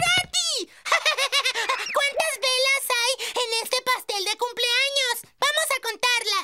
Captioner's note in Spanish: se ríe